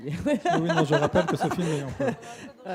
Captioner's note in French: rires